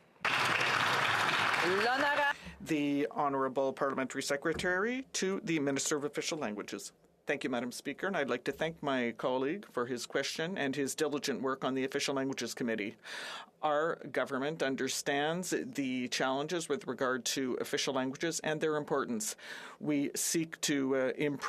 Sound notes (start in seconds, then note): 3.3 some Applause